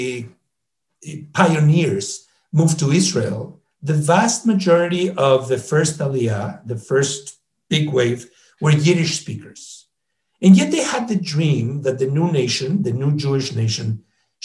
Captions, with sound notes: pioneers moved to Israel, the vast majority of the first (speaks in foreign language) the first big wave were Yiddish speakers. And yet they had the dream that the new nation, the new Jewish nation